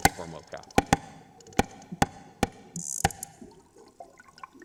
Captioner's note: clicking